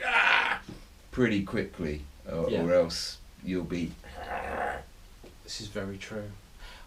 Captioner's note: zombie sound